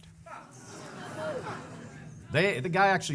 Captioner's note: audience laughing